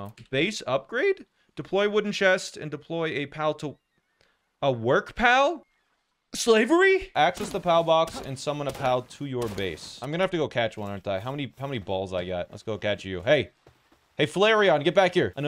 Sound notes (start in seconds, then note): none